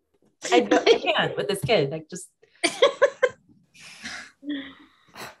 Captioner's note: all laughing